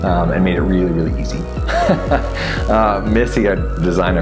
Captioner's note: laughs